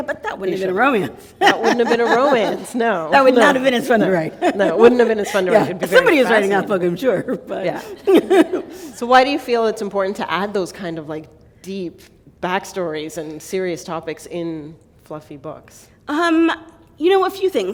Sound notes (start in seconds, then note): 7.8 chuckle